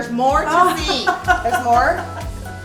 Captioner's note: laughing